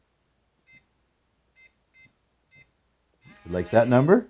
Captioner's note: keypad tone